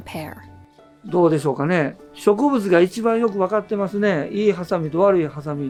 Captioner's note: speaking foreign language